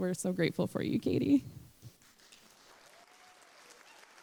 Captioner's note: applause